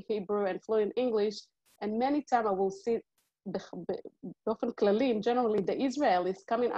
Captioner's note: Hebrew